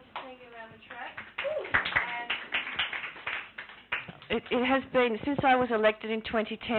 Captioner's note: clapping